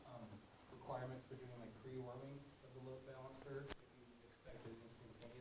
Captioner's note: man speaking faintly off microphone